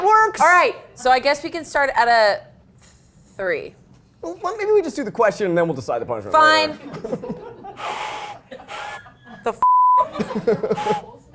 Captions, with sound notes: - All right, so I guess we can start at a three. - Maybe we just do the question and then we'll decide the punishment. - Fine. (whistle blows weakly) The fuck?